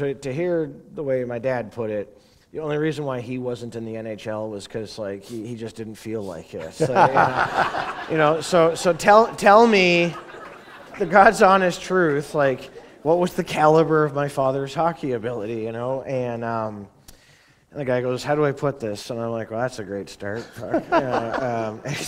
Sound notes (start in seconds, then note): 6.6 laughter; 20.3 laughter